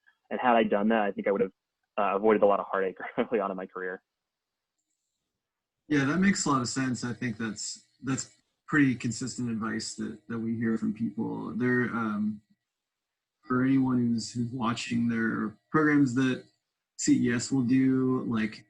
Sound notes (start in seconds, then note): 2.0 laughs